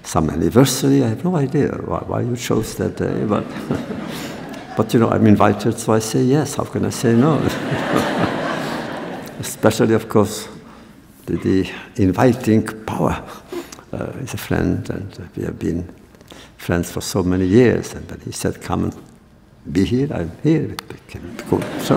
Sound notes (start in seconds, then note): 7.1 laughter; 7.2 laughs